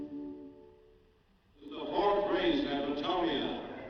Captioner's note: man On P.A